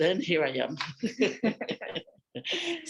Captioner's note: laughter